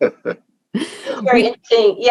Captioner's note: both chuckling